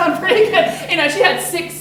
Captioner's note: laughing